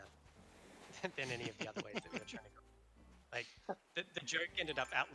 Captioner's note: laughter